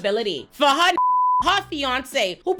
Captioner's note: beep